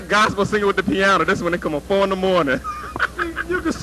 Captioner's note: laughter